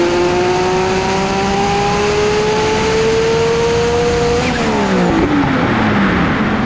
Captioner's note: engine revving